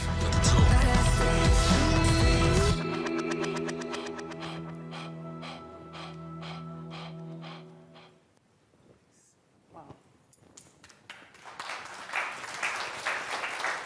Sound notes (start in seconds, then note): 0.0 upbeat music; 3.6 person panting; 10.8 crowd clapping